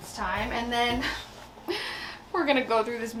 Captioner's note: sighs